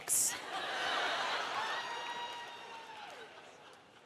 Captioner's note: audience laughs